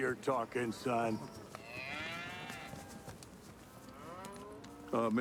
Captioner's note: mooing continues